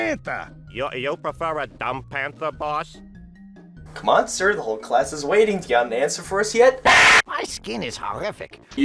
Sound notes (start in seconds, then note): 6.8 Half-life 2 stalker scream